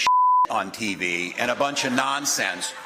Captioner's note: cheers